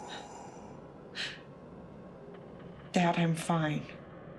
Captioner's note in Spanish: Debra jadeando